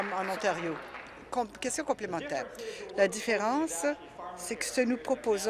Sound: applause

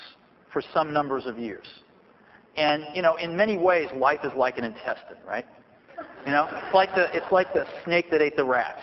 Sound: laughter

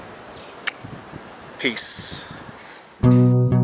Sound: kissing sound

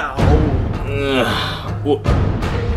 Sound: groaning; Mario groaning

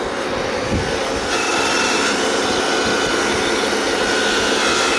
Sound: machine engine roaring

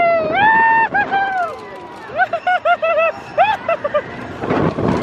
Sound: shouting

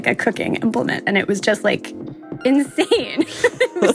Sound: laughs

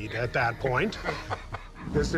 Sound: laughter

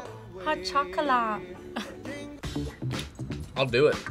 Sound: laughs

